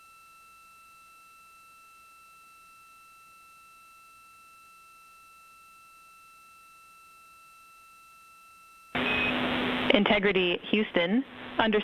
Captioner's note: silence